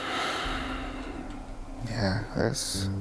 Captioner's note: sighs